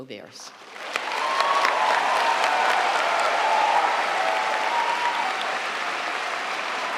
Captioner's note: audience applauding; audience cheering